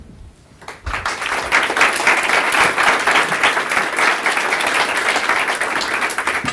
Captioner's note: applause